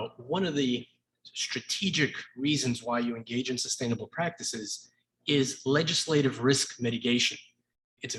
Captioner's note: none